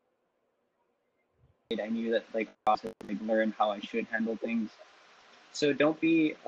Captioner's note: technical glitch